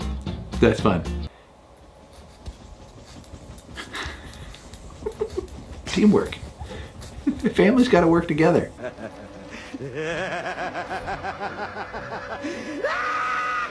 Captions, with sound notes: That's fun. Teamwork, family's gotta work together. (evil laughing)